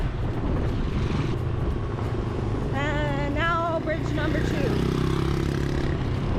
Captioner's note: engine humming